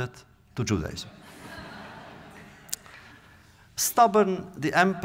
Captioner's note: audience laughter